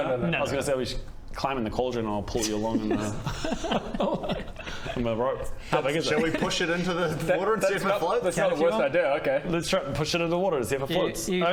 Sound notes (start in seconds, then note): 2.7 sceptical giggles